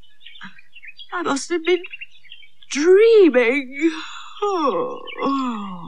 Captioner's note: yawns